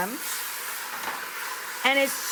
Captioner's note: pan sizzles